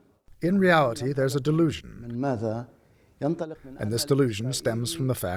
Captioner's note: through translator